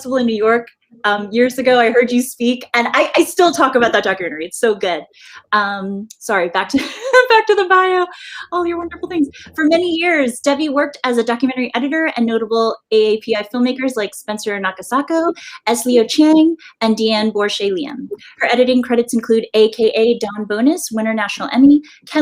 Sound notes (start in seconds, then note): 8.5 laughs